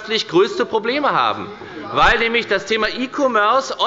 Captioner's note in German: Zurufe von der SPD